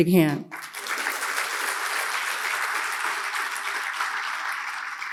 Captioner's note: audience applauds